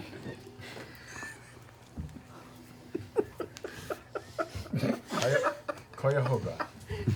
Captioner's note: all laugh